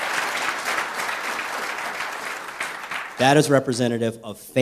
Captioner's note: applause